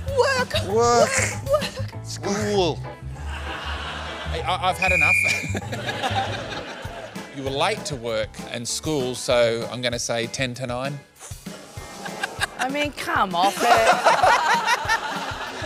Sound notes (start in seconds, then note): 3.1 laughter; 4.8 whistle blows; 13.4 laughter